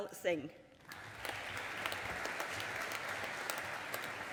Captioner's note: audience applauding